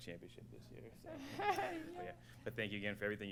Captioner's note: laughter